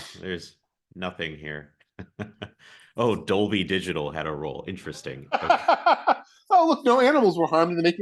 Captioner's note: laughs